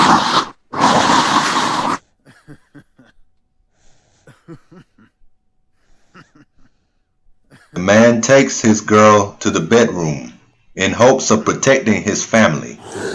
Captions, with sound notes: (monster growls) (weird laughter) the man takes his girl to the bedroom in hopes of protecting his family